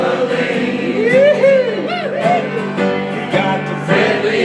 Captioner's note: audience cheering